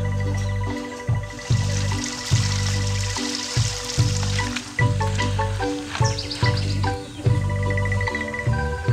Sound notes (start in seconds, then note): 1.3 water trickling